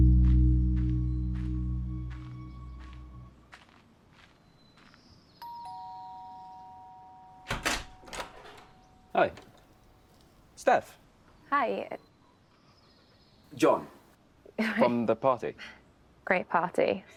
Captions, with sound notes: [doorbell rings] [door opens] Hi... Steph? -Hi. -Jon. -From the party. -Great party.